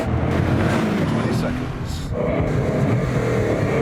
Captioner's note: engine roaring